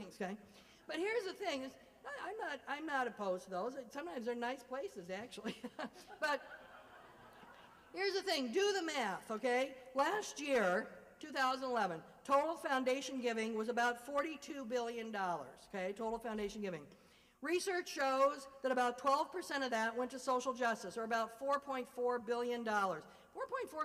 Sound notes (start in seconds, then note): 5.4 laughter